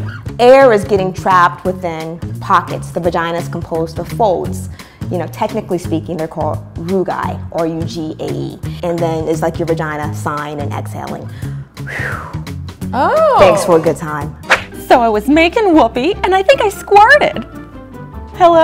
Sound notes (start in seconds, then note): 11.3 exhales